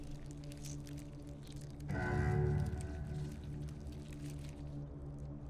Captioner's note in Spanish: insectos deslizándose